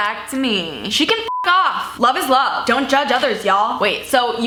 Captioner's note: beep